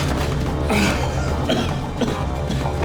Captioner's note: groaning and coughing